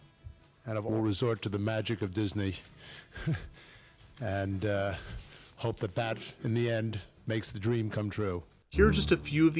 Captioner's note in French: rire